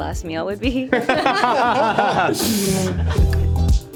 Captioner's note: all laughing; upbeat music